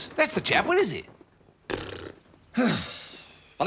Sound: blows raspberry

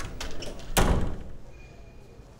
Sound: door closing

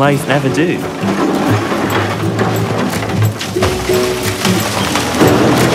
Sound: excavator rumbling

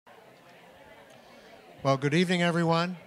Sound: general chatter

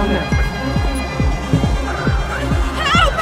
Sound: sirens

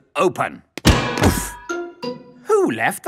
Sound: thuds

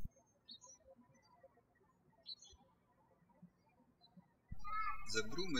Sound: birds chirping

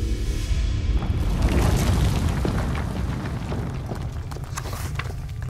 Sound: earth rumbles

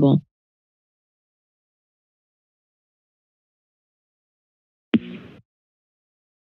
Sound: silence

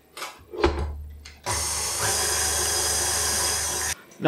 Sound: mixer whirrin

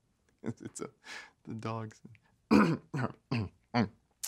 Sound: chuckling

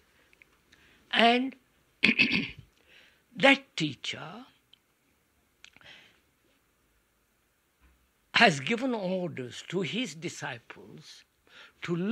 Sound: laughs

